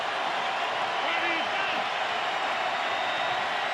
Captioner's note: crowd cheering